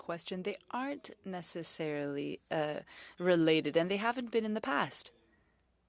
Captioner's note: speaking French